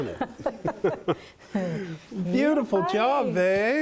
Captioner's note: laughing